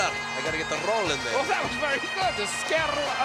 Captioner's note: laughs